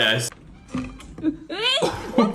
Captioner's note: gasps; bottle thumps; Phil laughs